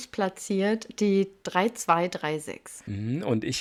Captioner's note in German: none